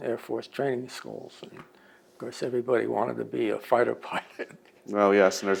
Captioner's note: laughs